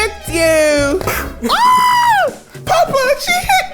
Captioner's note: yells